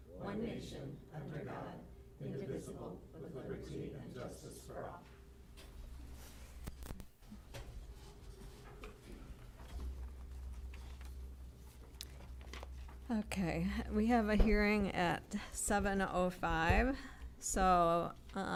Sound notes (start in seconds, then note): 5.1 shuffling